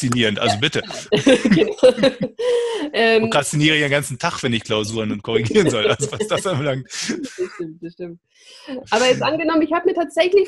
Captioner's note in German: lacht